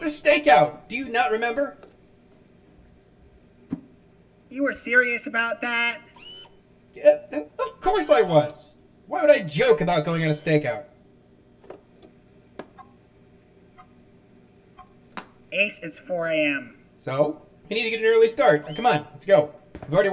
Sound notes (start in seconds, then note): 6.9 stammering